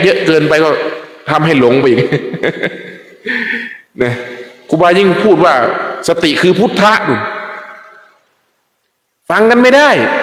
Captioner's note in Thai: เสียงหัวเราะ